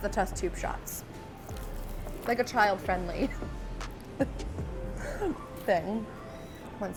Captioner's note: chuckles